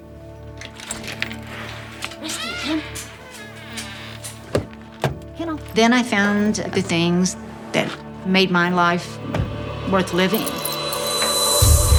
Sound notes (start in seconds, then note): 0.6 door opens; 3.3 door squeaks; 4.6 car door open; 10.9 uplifting music; 11.8 foot stomps